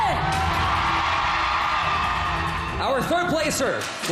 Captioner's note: audience cheering